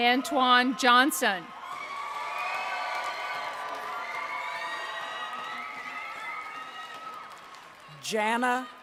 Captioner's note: applause